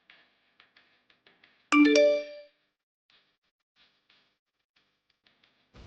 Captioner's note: phone Notification Tone